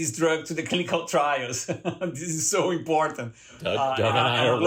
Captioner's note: laughter